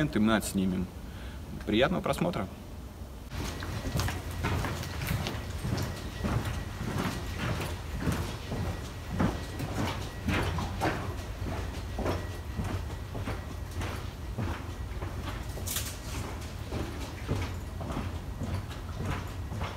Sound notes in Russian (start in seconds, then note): 4.8 Громкие шаги